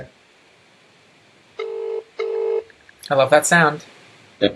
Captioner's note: phone rings